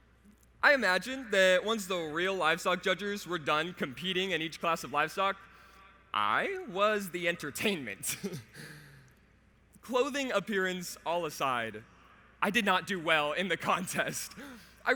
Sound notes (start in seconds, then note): 8.1 laughs